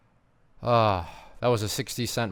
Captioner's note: sighs